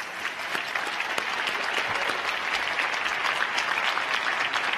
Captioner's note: crowd applauding